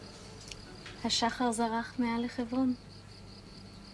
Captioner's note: she speaks Israeli